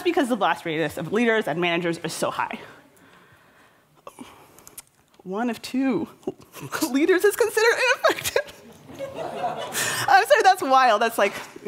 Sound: laughter

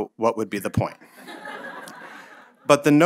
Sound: audience laughing

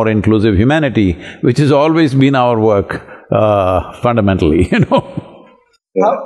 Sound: laughs

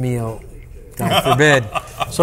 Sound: laughs

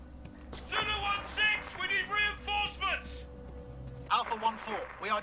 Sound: radio

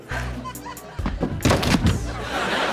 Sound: thudding

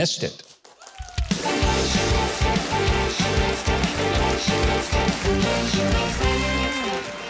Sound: audience cheering; upbeat jazzy music

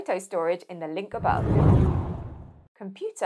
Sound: screen whooshing

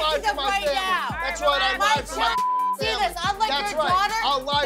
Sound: beep; beep

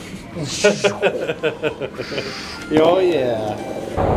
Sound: laughter

